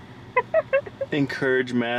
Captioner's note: laughs